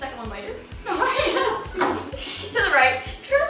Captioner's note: laughter